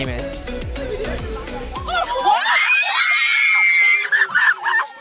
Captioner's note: screaming